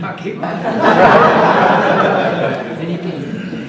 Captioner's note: audience laughs